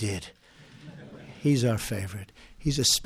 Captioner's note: laughter